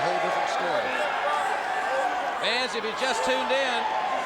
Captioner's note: crowd chatter